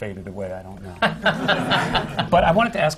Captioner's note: laughter